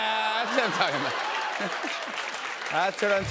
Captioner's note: laughter and applause